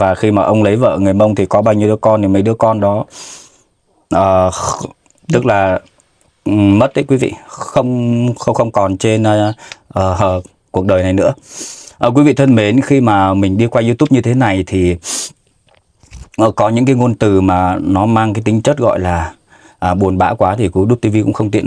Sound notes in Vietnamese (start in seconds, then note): 12.1 khịt mũi